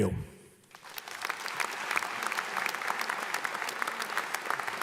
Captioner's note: audience applauds